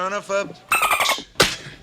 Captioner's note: dolphin Noise